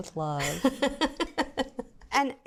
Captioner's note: laughs